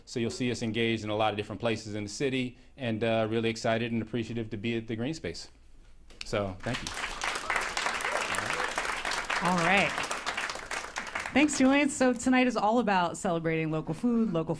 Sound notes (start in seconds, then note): 6.6 applause